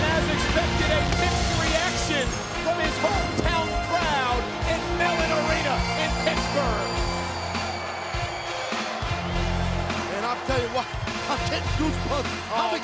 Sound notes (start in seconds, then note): 7.1 audience cheering and clapping